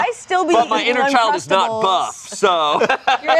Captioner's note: laughs